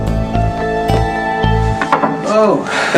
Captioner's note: knock on door